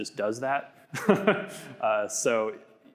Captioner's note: laughs